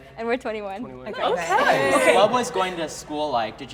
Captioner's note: crowd